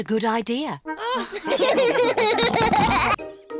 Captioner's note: all laugh